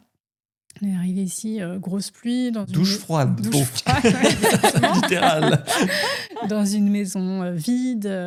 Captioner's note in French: rires